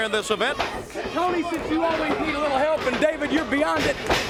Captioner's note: crowd chatter